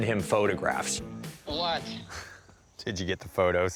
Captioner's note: on phone